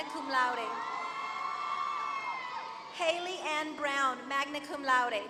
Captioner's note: applause